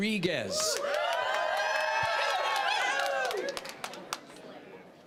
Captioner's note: applause, cheering